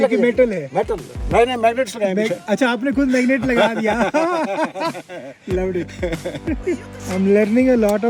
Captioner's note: laughing